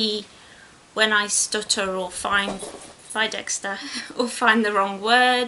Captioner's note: thud